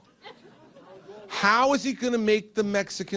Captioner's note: laughter